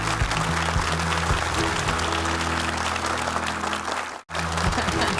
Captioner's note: and audience clap; bright music; audience clap; bright music